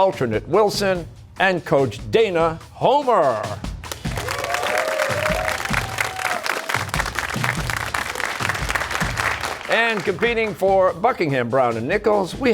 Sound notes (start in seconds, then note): 3.8 cheers and applause